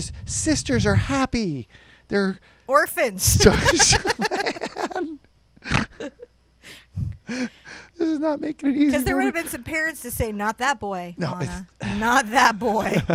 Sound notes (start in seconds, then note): 3.3 both laugh; 12.6 laughs